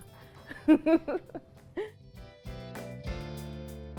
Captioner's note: laughing; upbeat music